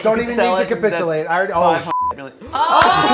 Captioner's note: overlapping chatter